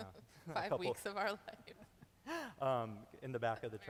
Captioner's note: laughing